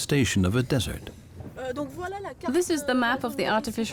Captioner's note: speaking French